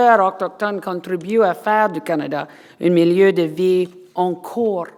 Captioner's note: foreign language